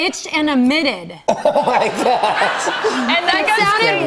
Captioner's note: laughing